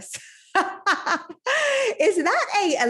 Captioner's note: laughing